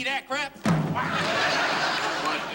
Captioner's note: laughter